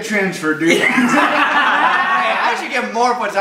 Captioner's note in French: Rires